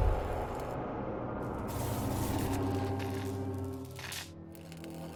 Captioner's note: buzzing